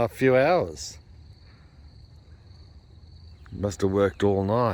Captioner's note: insects chirring